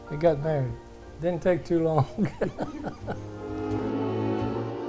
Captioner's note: laughing